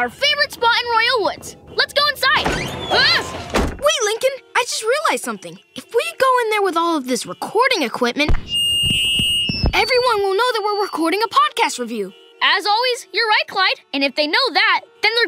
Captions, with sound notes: our favorite spot in Royal Woods. Let's go inside. [yelling] Wait Lincoln, I just realized something. If we go in there with all of this recording equipment... [feedback screeching] Everyone will know that we're recording a podcast review. As always, you're right, Clyde. And if they know that,